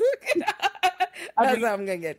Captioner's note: laughs